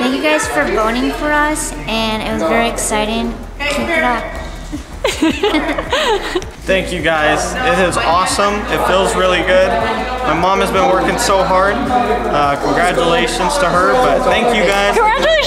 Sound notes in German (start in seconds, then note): 4.4 Mädchen kichern